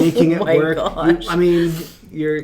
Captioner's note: laughs